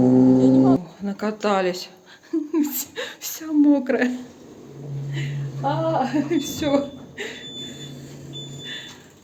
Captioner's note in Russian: смех